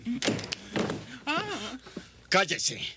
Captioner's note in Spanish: gritando